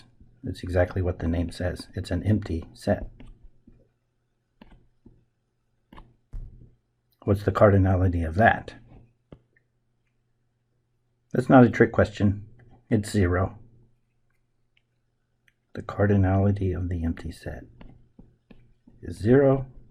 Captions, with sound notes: it's exactly what the name says, it's an empty set. [ Writing Sounds ] What's the cardinality of that? That's not a trick question; it's zero. The cardinality of the empty set is zero,